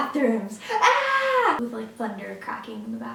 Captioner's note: yelling